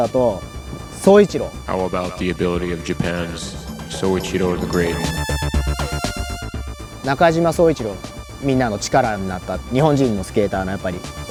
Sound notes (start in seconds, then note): 1.9 voice on radio; 7.3 speaking in foreign language